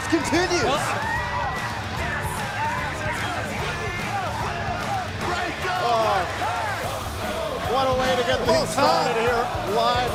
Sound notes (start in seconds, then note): 3.1 cheers & applause